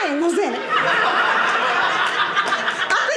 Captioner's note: audience laughing